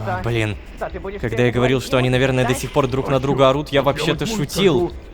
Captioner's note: background arguing